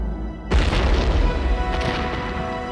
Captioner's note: explosion